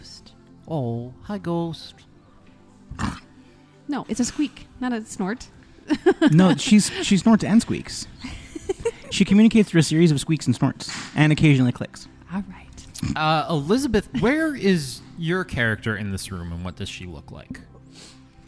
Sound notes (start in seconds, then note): 2.9 deep animal snort sound; 5.8 laughs; 12.9 snorts with laughter